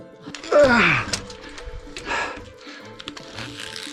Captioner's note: grunting